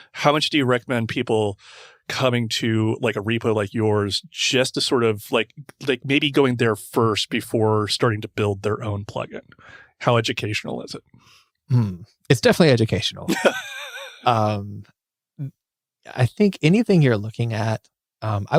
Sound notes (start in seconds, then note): 13.2 laughs